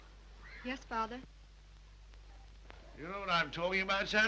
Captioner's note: none